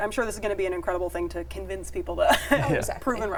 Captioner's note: chuckles